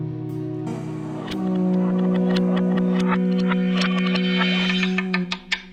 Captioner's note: graphics rattling